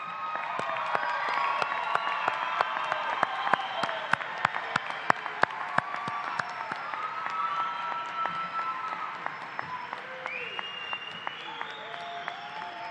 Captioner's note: cheers and applause